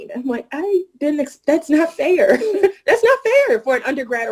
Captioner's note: laughing